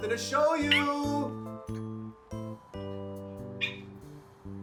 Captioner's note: Spike yipping